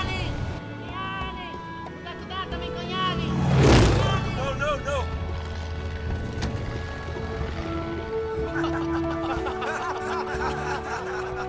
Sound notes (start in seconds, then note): 0.2 shouting in native language; 2.1 airplane whooshes; 8.4 laughter